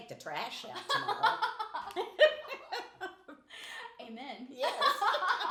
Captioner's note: laughing